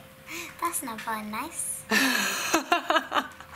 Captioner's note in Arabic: يضحك